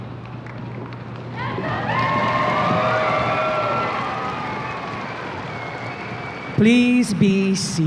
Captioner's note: audience applause and cheers